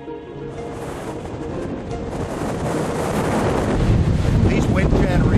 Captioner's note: wind howling